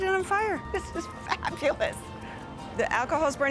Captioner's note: laughing